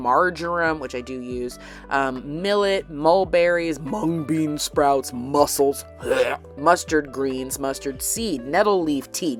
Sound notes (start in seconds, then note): 6.0 gags